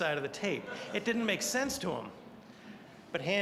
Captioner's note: audience laughing